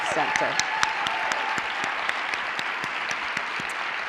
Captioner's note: cheering, applause